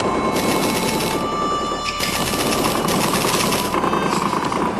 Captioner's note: artillery fires